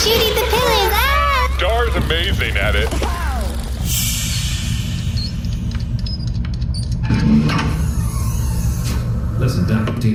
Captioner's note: transition noise